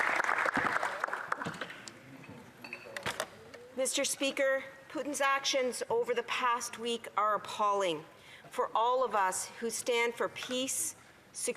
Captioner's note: applause